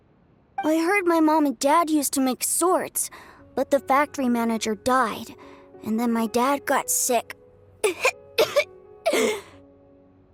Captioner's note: cough